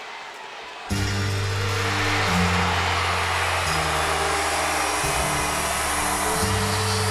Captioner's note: crowd cheering; hip hop music